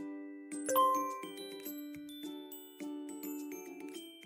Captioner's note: soft dinging